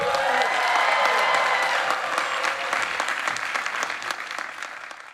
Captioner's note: people cheering